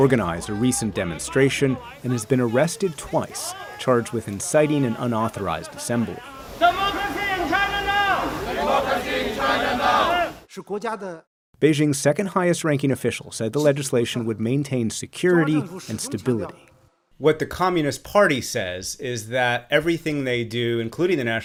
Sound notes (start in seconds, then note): 9.1 crowd; 10.9 speaking foreign language